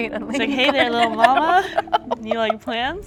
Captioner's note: laughter